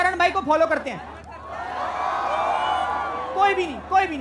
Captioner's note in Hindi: चियरिंग